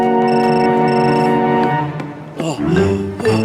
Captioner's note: groans